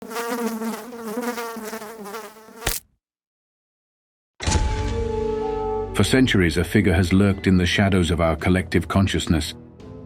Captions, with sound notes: (fly buzzing) (fly splatting) (mysterious music) For centuries, a figure has lurked in the shadows of our collective consciousness,